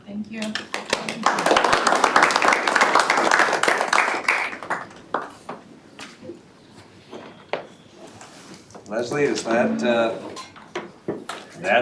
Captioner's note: applause